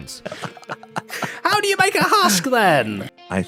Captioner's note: both laughing